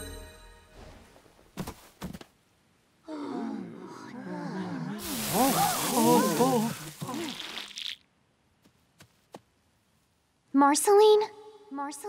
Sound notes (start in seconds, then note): 3.2 crowd murmuring; 5.2 injuries whooshing